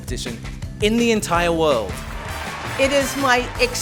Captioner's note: applause